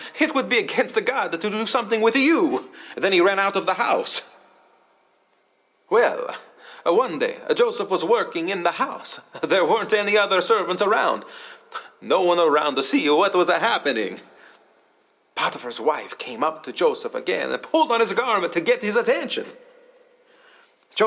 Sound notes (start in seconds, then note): none